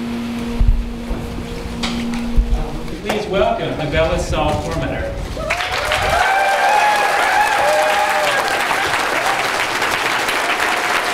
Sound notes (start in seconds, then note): 5.4 applause